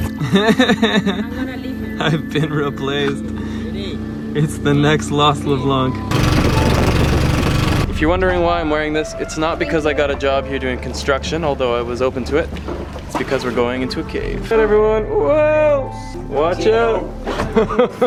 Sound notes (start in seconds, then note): 0.1 laughs; 6.1 boat motor running